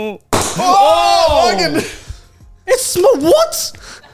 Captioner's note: bottle popping